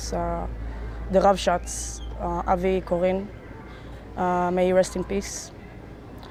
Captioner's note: hebrew